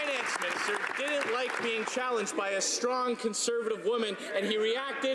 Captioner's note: some Applause